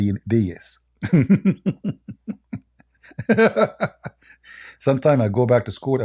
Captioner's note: Ketawa